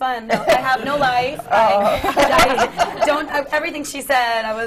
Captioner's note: laughter